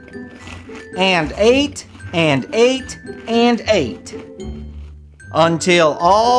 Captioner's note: popcorn crunches